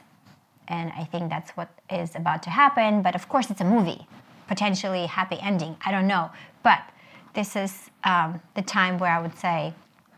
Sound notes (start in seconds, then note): none